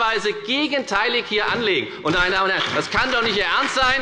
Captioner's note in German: Beifall bei der FDP und bei Abgeordneten der SPD